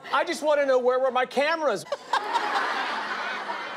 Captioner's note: laughter